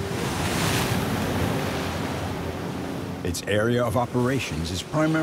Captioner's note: waves crashing